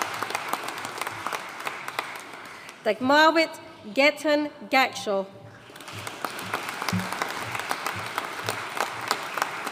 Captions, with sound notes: Dagmawit Getahun Gashaw. (AUDIENCE APPLAUDING)